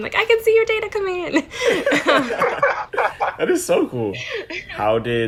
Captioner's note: laughing